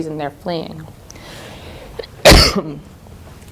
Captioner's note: coughing